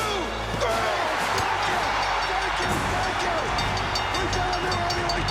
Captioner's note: audience cheers; bell rings